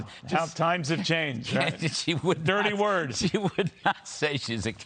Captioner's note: laughter